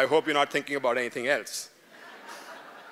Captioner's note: laughter